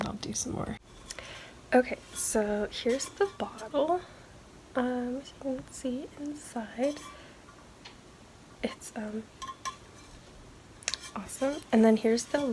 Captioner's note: taps